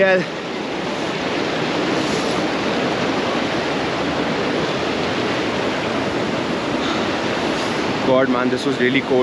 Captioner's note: water cascading